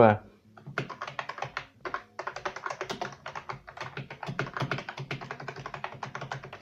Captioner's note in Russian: Звуки нажатий на клавиши этой клавиатуры